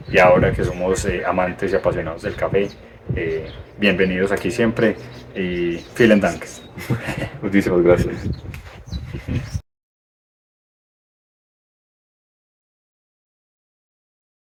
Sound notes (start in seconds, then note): 6.2 in German